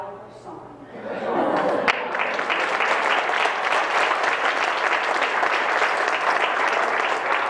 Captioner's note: crowd laughs; crowd claps